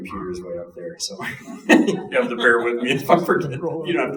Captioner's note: chuckling